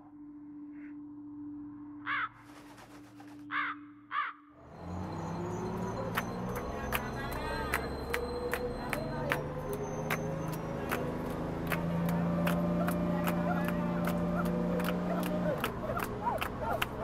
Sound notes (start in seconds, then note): 2.0 crow caws; 5.6 bus accelerates; 8.2 clapping